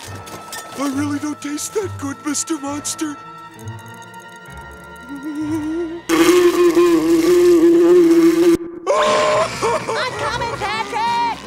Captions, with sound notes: I really don't taste that good, Mr. Monster. [buzzing] [screaming] I'm coming, Patrick!